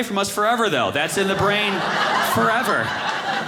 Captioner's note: audience laughing